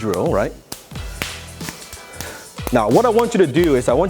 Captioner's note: arms slapping when in contact